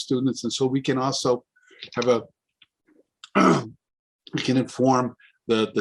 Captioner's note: clears throat